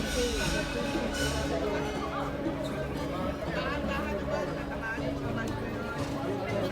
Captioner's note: crowd speaking in foreign language